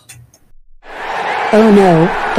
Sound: crowd gasps; crowd screaming

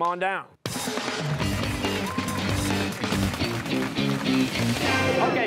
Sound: cheers and applause

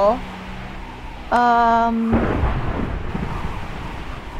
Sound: thunder rumbles in the distance

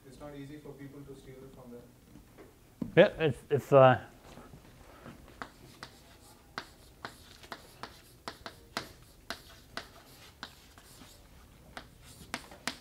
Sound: chalkboard writing

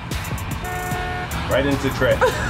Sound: car honks

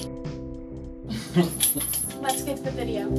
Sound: laughs

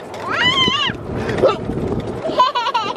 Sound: exclaims; laughing

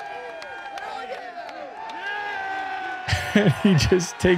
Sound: crowd cheering; chuckles

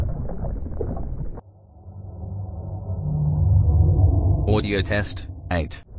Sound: eerie ethereal transitional SFX

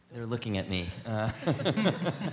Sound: laughter

